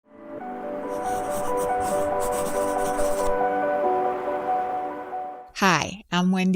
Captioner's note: lively music; pen scratching